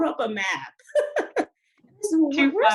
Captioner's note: laughs